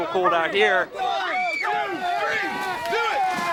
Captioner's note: crowd cheering